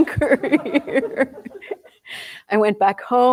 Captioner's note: laughter